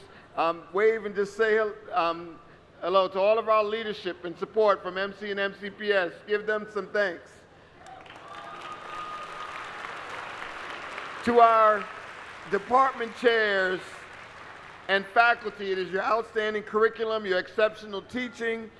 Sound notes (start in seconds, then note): 11.7 applause